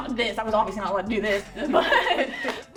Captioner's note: laughs